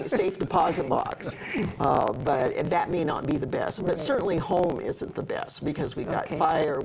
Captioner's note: laughter